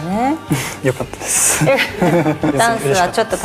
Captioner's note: laughs